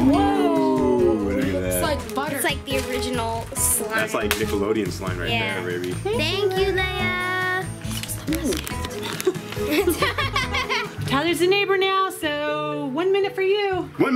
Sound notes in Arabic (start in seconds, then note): 8.8 يضحك